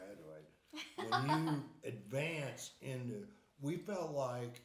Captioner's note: laughing